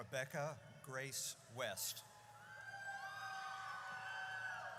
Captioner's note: audience cheers